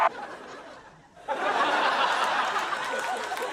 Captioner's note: laughter